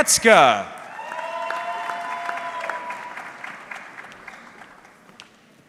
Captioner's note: audience cheering